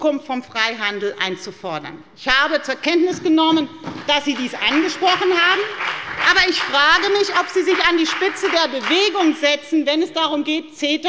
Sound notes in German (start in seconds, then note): 2.1 Beifall bei der FDP